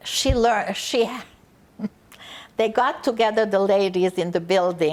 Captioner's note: laughing